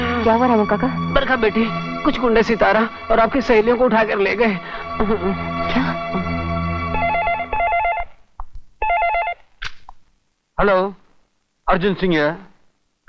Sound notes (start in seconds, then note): 6.8 phone rings